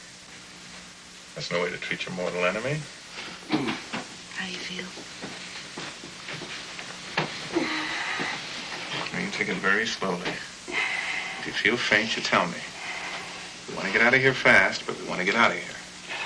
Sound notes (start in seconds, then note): 7.5 Dan moans